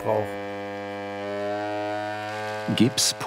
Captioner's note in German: Dröhnende Geräusche